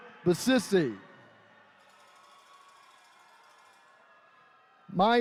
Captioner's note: attendees cheering